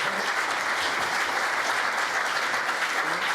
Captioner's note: applause